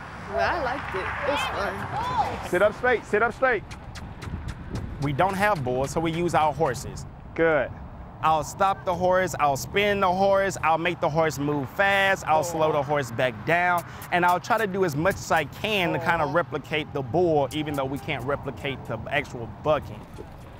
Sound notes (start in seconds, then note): 3.6 kiss sound